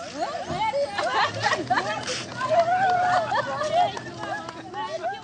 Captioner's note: women laugh; women exclaim in Sudanese language